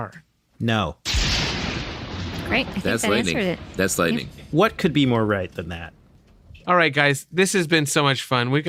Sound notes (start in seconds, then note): 1.0 lightning strikes